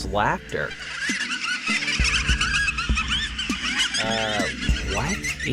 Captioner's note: creepy children's laughter